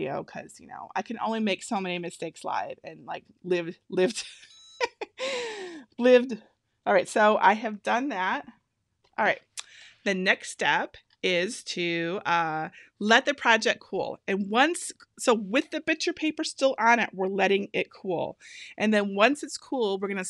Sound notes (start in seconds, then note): 4.4 EasyPress beeping; 4.8 laughing